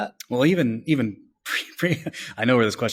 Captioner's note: laughs